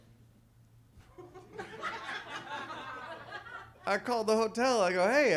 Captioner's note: audience laughs